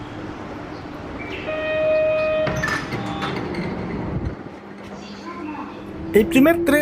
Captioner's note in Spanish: sonido de apertura de las puertas